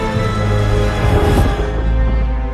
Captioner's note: thunder crash